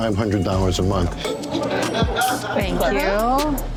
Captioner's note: laughter